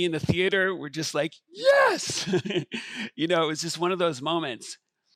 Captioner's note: chuckles